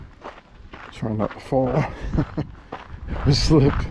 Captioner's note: laughter